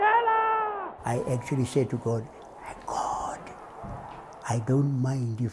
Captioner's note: cheers and Applause